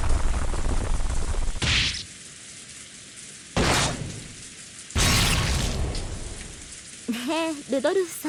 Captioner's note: thud; snap